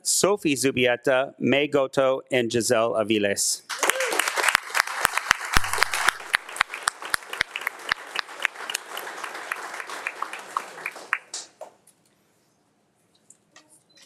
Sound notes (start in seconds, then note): 3.6 attendees clapping; 3.7 claps